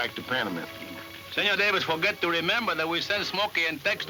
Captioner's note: none